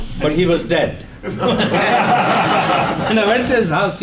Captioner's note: laughter